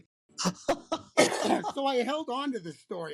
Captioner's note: laughter